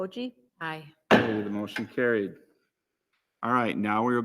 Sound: gavel raps

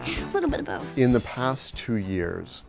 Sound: laughter

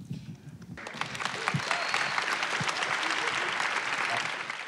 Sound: audience claps

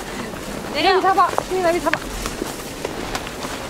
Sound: dust blowing

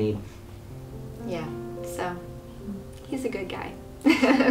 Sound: laughing

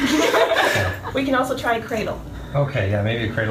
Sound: everyone laughs

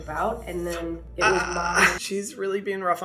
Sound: Hyram groaning

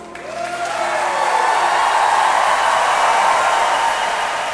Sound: loud cheering and applause

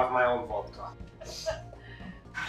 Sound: fake laugh

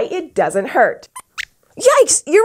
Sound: squeaks squeaks

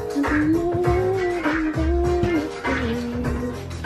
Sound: upbeat music; humming

